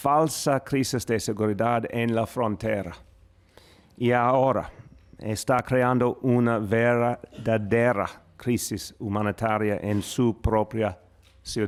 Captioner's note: speaking spanish